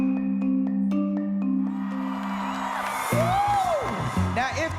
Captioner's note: cheering